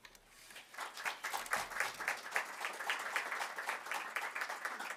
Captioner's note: audience clapping